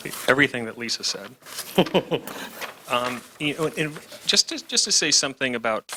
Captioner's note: laughs